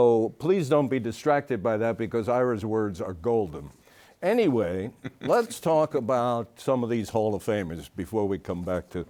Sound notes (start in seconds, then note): 4.9 chuckles